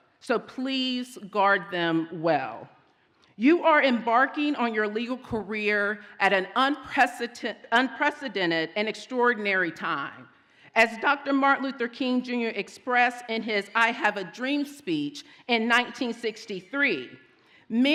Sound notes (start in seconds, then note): none